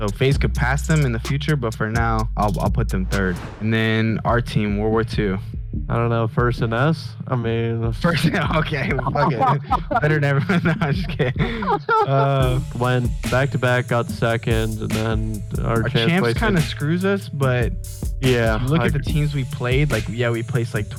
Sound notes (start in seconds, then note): 8.0 laughing; 9.8 both laugh